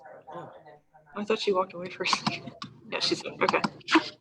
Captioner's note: laughs